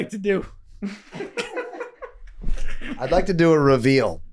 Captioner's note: group laughing